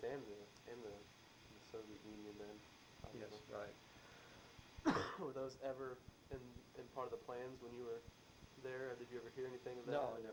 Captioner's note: coughs